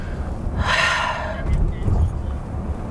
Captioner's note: sigh